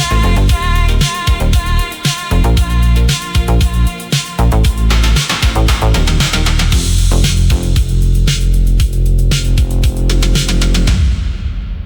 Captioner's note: fade out on the sound of rhythmic, electronic static